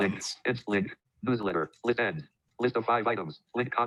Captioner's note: automated Voice